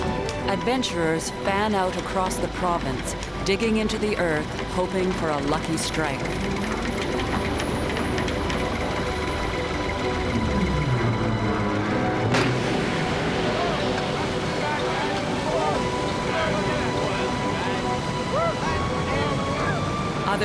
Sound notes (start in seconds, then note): 7.0 sound of oil bursting; 12.3 men excitedly shouting